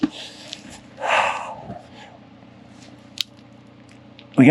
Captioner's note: sighs